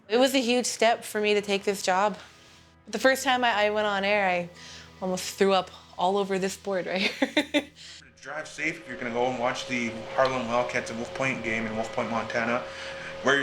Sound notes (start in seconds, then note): 6.9 laughs